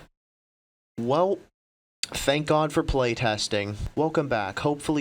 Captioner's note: tch